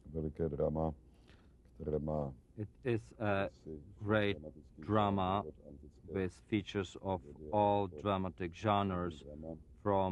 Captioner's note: through translator